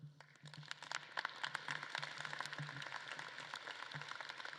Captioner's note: audience claps